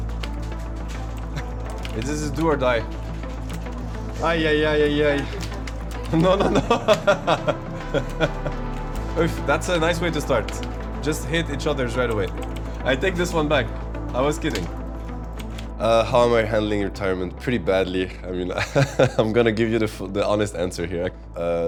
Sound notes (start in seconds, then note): 0.2 intense music; 6.1 laughter; 18.5 laughter